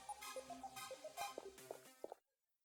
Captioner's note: footsteps